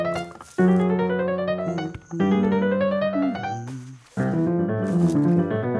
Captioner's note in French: fredonnement